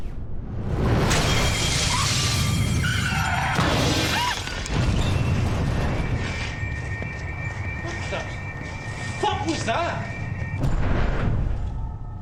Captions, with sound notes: (alarm blaring) (tires screech) What was that? What the fuck was that?